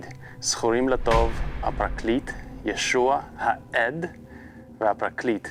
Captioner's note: reading in Hebrew